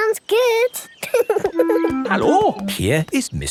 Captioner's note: laughing